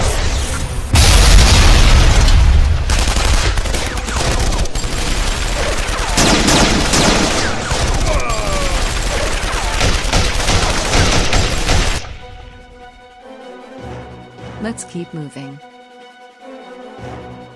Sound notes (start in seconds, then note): 2.9 gun blasting; 8.0 guard groans; 12.2 dramatic orchestral music